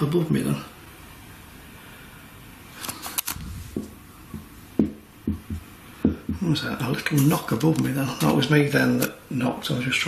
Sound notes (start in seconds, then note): 5.2 knocking